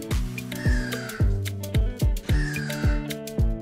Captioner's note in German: Vögel kreischen